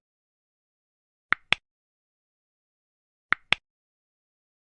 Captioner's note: click